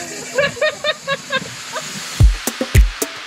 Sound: person laughing; rhythmic music

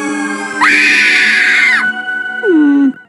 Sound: screams

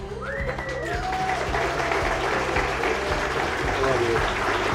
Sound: cheers and applause

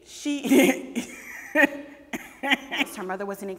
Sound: laughing

